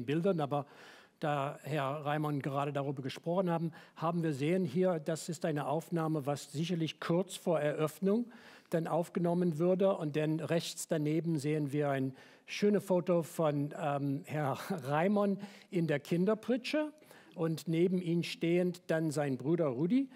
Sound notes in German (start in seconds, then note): none